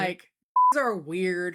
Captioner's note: beep